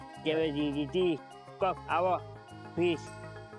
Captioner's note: Golu talking gibberish